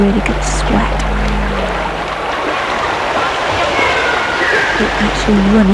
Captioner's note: running water, children yelling